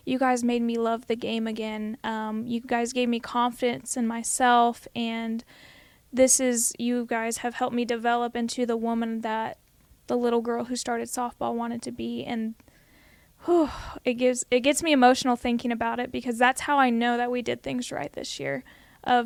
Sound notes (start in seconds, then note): 13.4 sighs